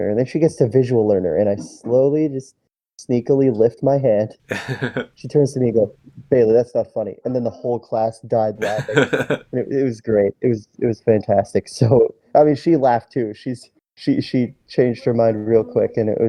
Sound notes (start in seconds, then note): 4.5 laughs; 8.6 laughs again